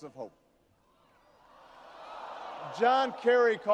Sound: audience shouting

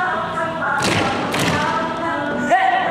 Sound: thump, thump

